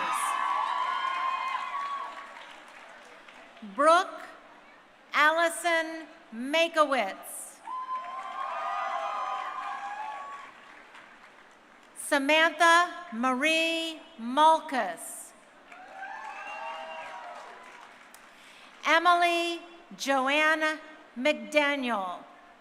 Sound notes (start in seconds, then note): 0.0 crowd cheering; 7.6 crowd cheering; 15.7 crowd cheering